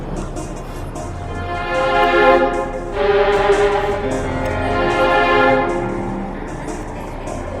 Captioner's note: insert more ugly cries